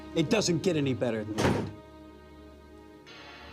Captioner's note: door slams shut